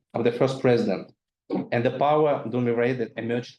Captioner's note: speaking foreign language